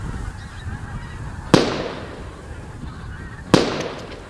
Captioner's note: shots fired